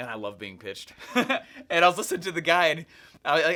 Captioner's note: laughs